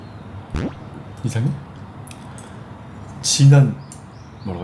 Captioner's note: ugh